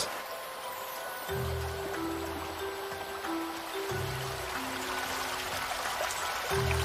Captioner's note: water babbling